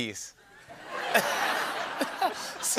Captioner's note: laughter